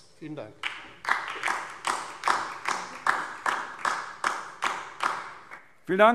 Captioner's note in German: Beifall DIE LINKE